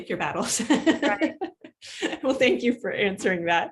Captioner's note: laughing